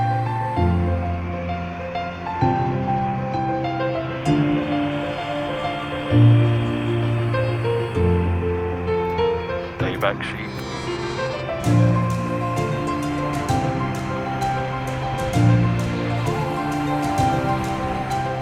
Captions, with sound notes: Stay back sheep. (baa)